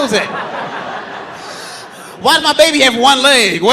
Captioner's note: audience laughing